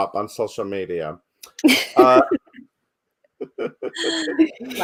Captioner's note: everyone laughs